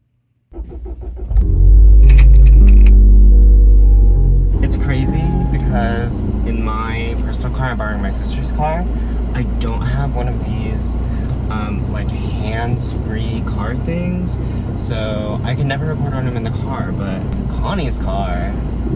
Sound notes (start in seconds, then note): 0.7 car engine starting; 2.1 projector slide change